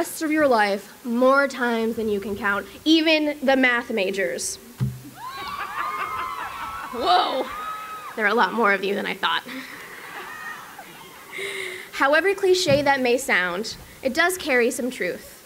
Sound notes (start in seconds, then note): 5.1 cheering